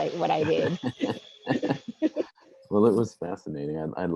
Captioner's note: laughing